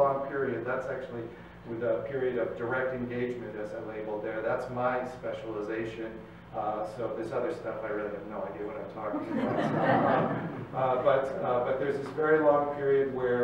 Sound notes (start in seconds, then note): 9.1 crowd laughs